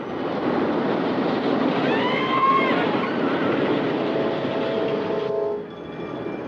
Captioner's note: roller coaster rattling; people screaming; cheerful music